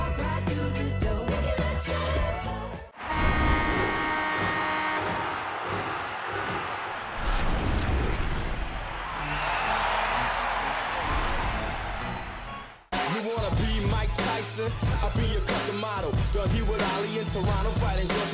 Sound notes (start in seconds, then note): 3.0 goal horn; 4.5 crowd cheering; 6.3 whoosh; 10.3 organ